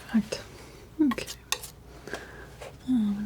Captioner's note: scratching